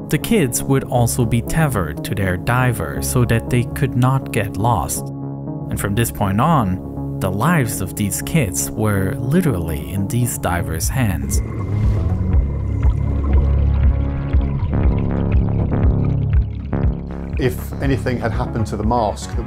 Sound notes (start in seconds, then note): 11.5 tense music; 11.5 water burbling